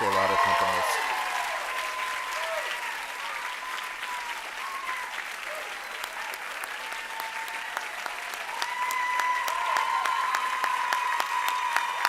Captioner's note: applause